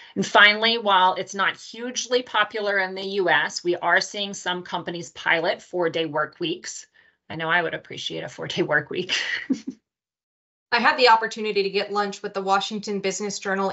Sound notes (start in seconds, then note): 9.2 laughs